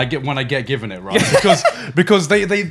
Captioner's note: laughing